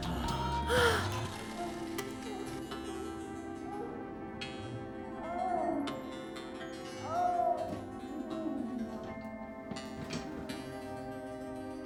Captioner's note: heavy breathing; moaning